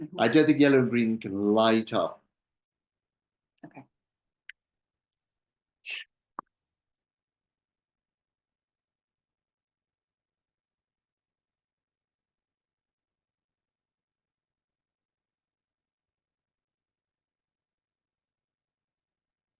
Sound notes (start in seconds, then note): 4.4 silence